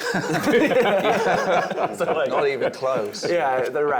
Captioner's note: laughing